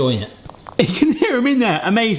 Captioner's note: balls rattle